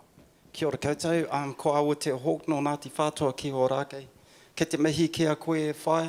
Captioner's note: speaking in foreign language